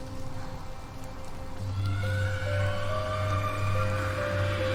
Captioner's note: screaming